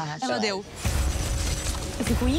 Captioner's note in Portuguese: ruído digital